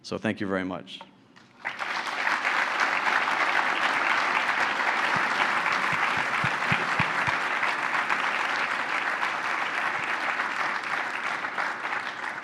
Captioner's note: applause